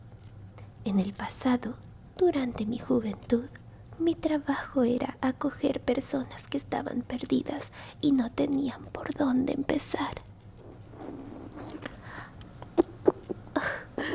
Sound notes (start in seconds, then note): 10.5 your stomach growls